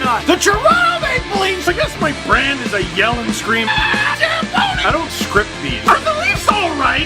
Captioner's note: rock music plays throughout intro; screams